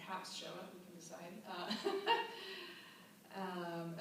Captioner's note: laughter